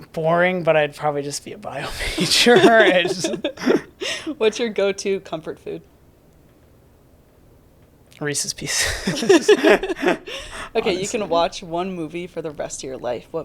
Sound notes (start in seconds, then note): 1.9 both laughing; 8.8 both laughing